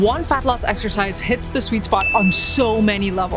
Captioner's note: bell dinging